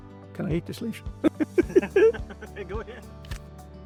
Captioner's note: laughing